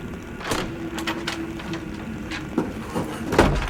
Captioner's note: door opens